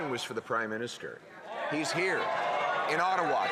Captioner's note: some Applause